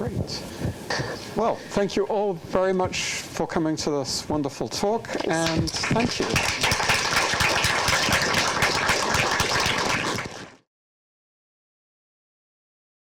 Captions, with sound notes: - Great. Well, thank you all very much for coming to this wonderful talk. And thank you. (applauding)